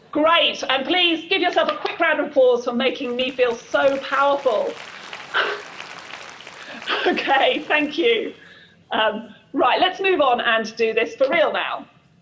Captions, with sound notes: Great, and please, give yourself a quick round of applause for making me feel so powerful. (applause) Okay, thank you. Right, let's move on and do this for real now.